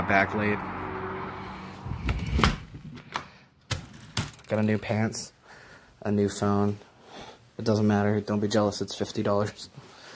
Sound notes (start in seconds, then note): none